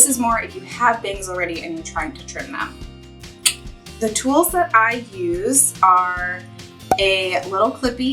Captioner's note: tongue click